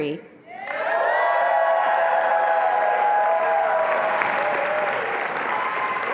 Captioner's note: attendees applauding and cheering